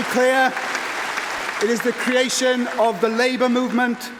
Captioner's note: applause